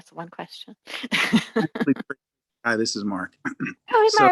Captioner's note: laughs